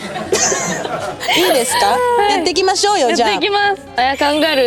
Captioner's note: non-stop laughter as the cooking finally begins!